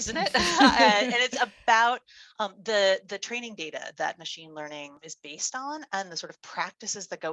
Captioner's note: both laugh